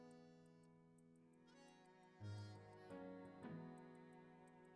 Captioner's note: sobbing